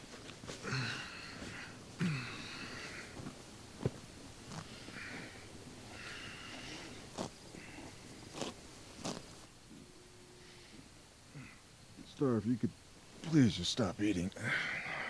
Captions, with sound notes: (grass tears) Star, if you could please just stop eating. (sighs)